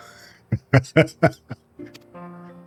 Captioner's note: laughs